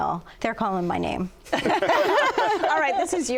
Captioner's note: laughter